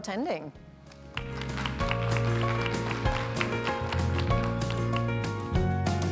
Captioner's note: concluding music; applause